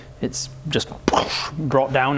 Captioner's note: boosh!